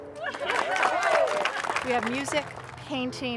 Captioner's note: applause